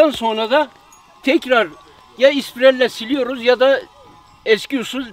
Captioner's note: grinding machine